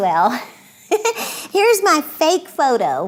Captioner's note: giggling